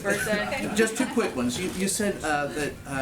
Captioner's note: laughter